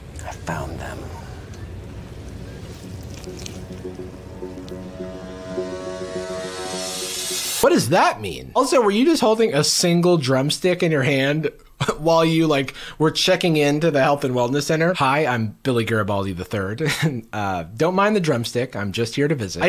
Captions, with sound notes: - I found them. (crunch) (mischievous music) - What does that mean? Also, were you just holding a single drumstick in your hand? While you like, were checking in to the health and wellness center? Hi, I'm Billy Garibaldi the third, don't mind the drumstick. I'm just here to visit.